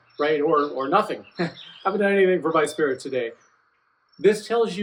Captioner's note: laughs